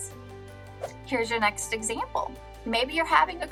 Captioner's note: air whooshing